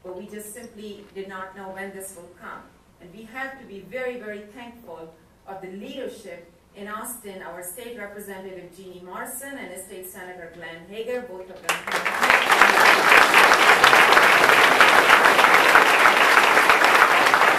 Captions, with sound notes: but we just simply did not know when this would come. And we have to be very very thankful of the leadership in Austin, our State Representative Geanie Morrison and our State Senator Glenn Hegar, both of them-- (audience applause drowns out speaker)